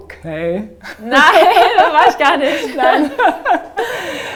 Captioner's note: laughter